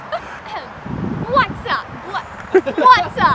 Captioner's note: laughter; clears throat